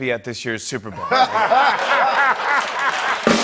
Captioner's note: laughter and applause; drumbeat